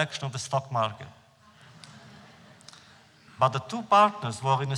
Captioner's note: laughter